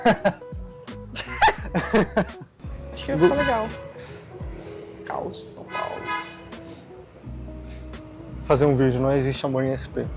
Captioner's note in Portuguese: risadas